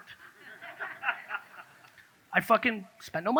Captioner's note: audience laughs